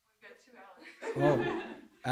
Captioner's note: laughter